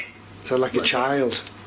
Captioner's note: Ovilus electronic voice speaks